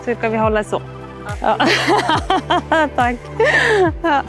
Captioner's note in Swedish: Skratt